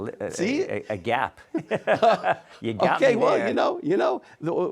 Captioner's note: laughs